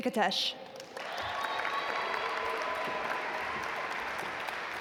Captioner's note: audience applaud